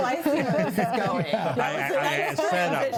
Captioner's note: panelists laughing